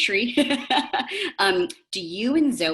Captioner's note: laughs